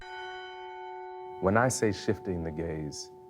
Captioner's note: bell tolling